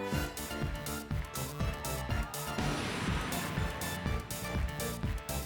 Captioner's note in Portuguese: audience cheering; audience clapping on beat